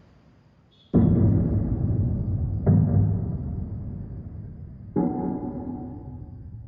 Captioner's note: thuds echo